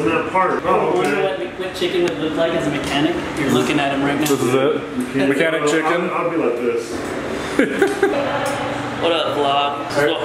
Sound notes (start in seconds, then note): 7.4 laughing